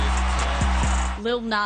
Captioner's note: applause